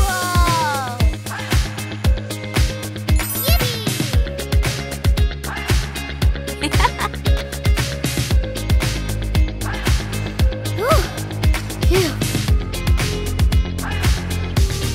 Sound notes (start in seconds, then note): 6.6 giggling; 10.7 gasping